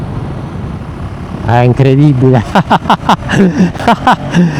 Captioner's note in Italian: risate